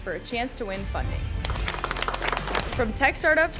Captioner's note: judges applaud